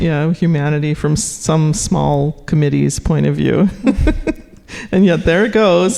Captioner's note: laughing